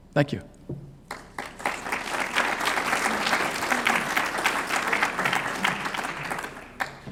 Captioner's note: applause